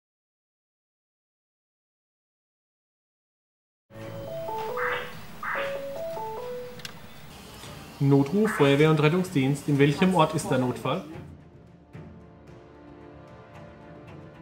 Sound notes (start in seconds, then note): 6.0 phone ringing